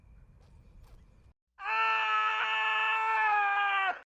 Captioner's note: screaming